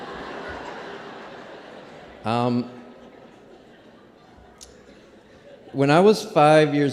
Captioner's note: laughter